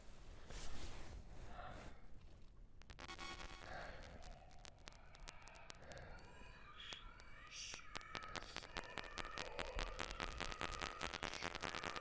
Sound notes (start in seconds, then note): 2.8 static and ghost noises